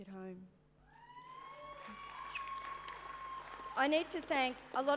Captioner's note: cheering and applause